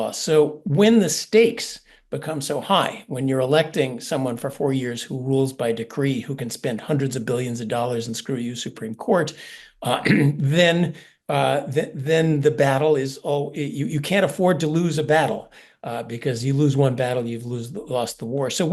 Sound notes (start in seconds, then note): 10.0 cough